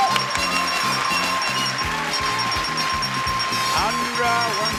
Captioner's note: bell dings repeatedly; lively horn music